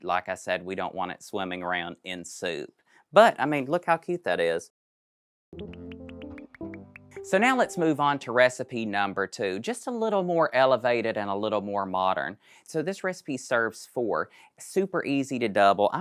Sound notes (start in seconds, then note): 5.5 graphics popping; 5.5 bright music